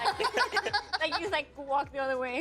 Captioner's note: laughing